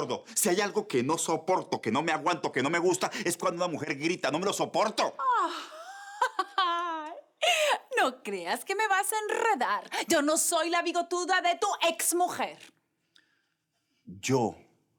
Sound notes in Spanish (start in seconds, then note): 5.4 Risas